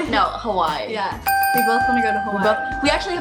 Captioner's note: dinging